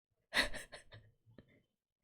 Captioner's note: laughs